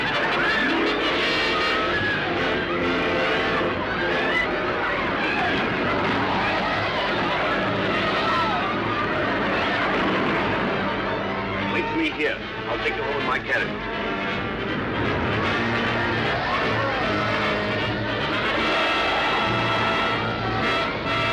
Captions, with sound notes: (people shouting) (canons roaring) - Wait for me here. I'll take you home in my carriage. (people yelling) (dramatic orchestral music)